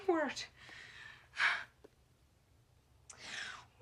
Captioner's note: sighs